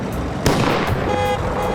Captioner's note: car backfires; horn honking